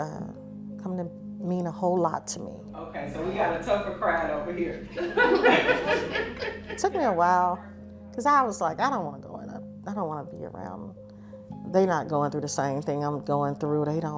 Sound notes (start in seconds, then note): 5.0 people laughing